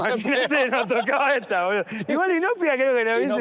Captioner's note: laughter